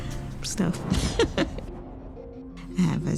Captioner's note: giggles